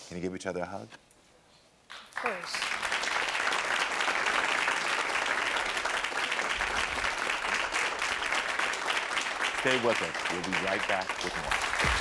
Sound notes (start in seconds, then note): 3.0 audience applaud